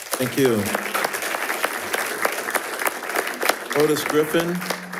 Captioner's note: attendees applauding